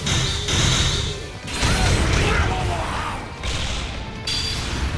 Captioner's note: cries out